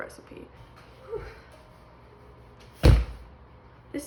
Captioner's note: whew; big bonk